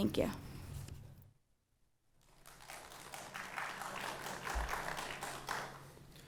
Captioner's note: applause